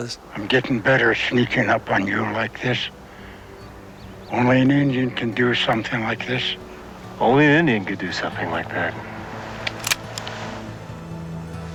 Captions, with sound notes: - I'm getting better sneaking up on you like this. Only an Indian can do something like this. - Only an Indian could do something like that. (gun cocking)